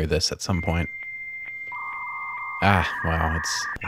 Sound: dial Up Modem screaming for its life

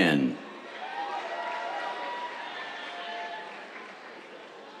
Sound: cheers, applause

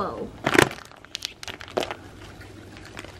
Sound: crunch

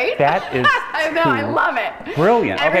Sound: laughs

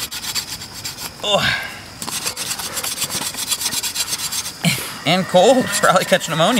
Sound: grunts

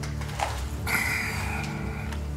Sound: sighs

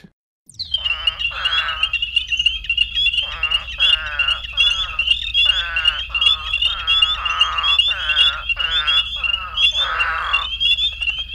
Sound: eastern spadefoot call

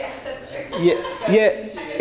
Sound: laughs

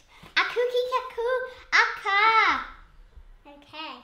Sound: speaking made-up language

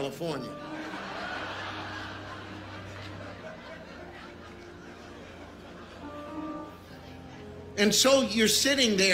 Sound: congregation laughing

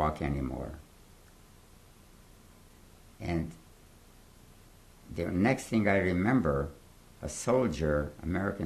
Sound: pauses for 3 seconds

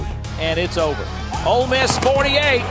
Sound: voiceover

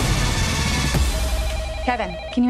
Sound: phone ringing

